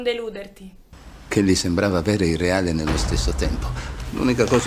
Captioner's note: voice-over